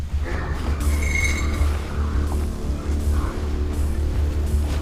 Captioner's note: metal scraping